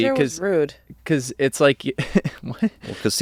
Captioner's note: chuckles